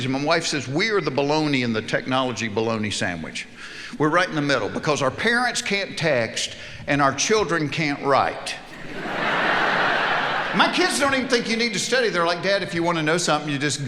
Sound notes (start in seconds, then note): 8.6 audience laughing